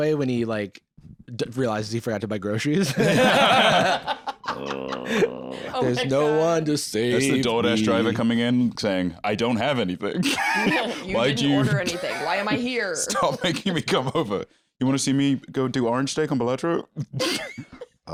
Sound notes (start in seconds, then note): 2.8 all laughing; 3.2 groans quietly; 10.2 laughs; 17.6 laughs